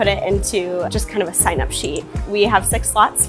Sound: mouse clicking

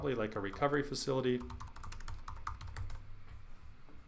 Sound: typing

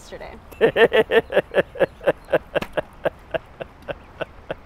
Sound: Derek chuckles

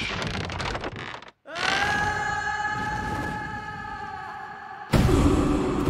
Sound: screaming

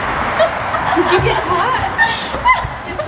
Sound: laughing; excited scream

